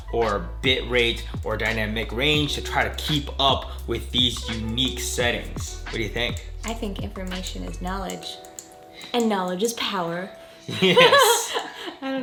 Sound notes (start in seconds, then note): 10.7 chuckles